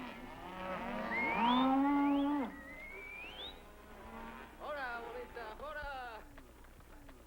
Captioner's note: cowboys whistle and shout